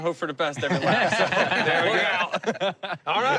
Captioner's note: laughter